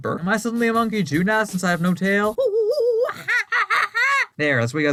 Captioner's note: monkey noises